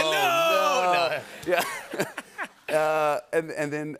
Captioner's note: laughter